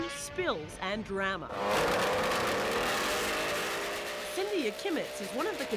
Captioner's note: engine starting